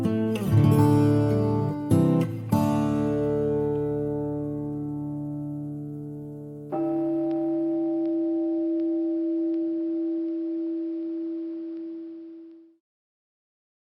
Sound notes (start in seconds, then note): 6.7 meditation chime